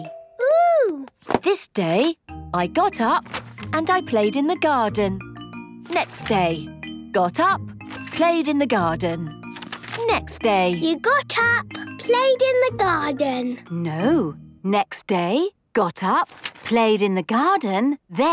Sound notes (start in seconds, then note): none